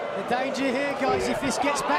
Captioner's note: crowd cheering